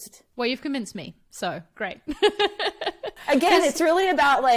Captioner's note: laughs